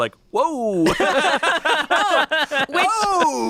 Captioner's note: group laughs